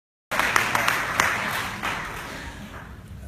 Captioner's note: clapping